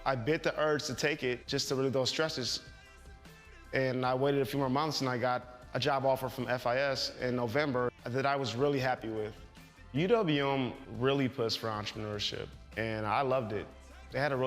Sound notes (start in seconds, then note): none